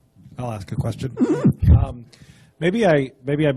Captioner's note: voiceover